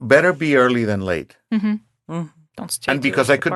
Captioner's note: speaking quietly